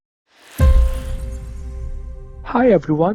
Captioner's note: air whooshing